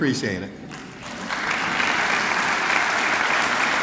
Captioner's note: clapping